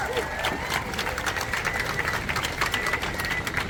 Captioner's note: applause